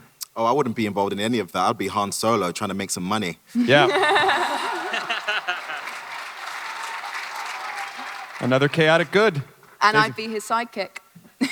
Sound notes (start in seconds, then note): 3.6 Riley et al laugh; 5.5 audience applause; 11.3 chuckles